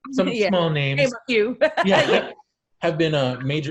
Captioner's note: loudly laughs; loudly chuckles